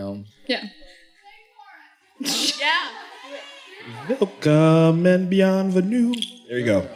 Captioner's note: moderator sings